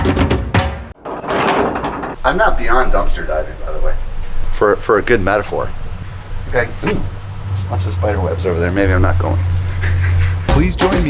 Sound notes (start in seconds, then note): 1.0 door latch opens; 10.5 laughs